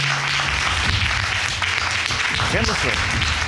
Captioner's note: audience applauding